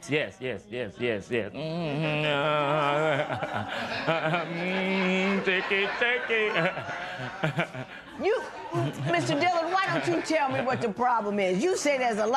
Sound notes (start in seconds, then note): 3.1 laughter; 6.5 laughs